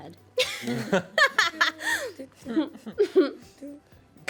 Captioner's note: everyone laughs